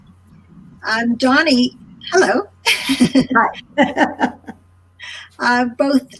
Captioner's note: laughing